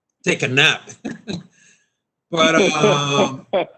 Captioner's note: laughing